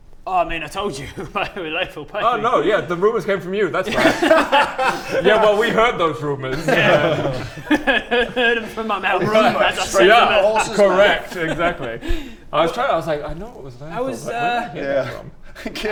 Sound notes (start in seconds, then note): 3.8 amnesiac giggles